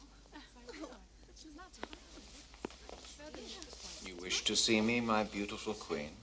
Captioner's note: women chatting quietly